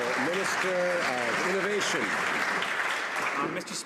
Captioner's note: some Applause